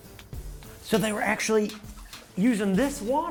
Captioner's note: water splashes